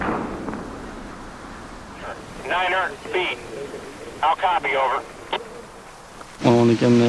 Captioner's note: man on walkie-talkie